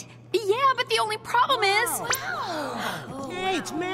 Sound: gasps

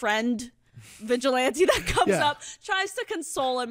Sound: giggles

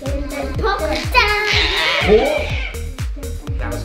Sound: screaming

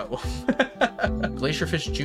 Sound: laughs

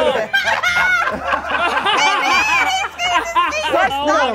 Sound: group laughing

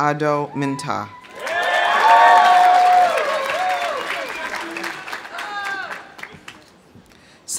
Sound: audience cheering; audience applauding

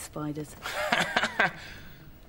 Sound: laughs

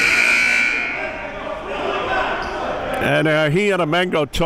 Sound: buzzer dings

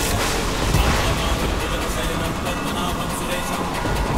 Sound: chanting

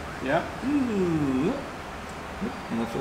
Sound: humm

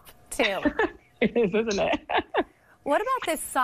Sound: giggles

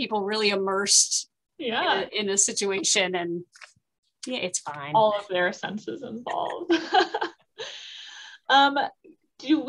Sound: laughter

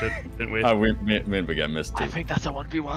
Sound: murmuring

